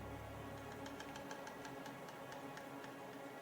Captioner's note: cracking